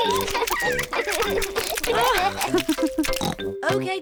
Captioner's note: both laugh; laughs and oinks